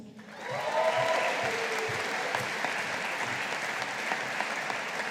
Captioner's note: audience applauding